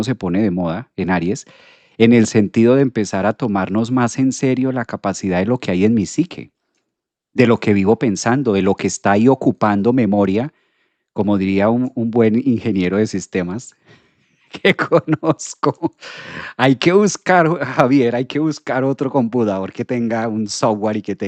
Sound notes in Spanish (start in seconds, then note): 14.6 risas